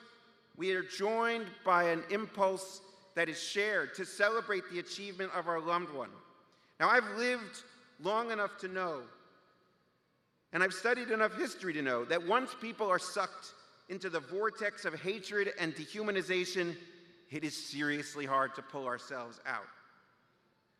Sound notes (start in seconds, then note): none